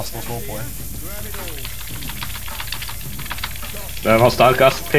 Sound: frantic Button Mashing

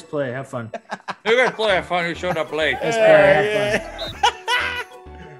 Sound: laugh

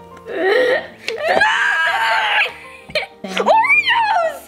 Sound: laughs

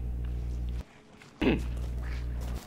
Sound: cough

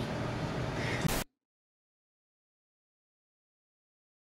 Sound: static crackling

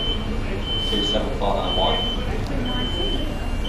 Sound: announcement in background

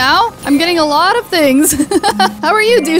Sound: laughs

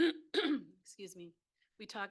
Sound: clears throat

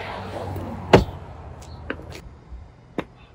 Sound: whack

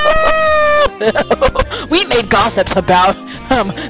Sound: preppy laugh

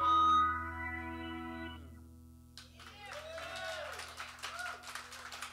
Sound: cheers and applause

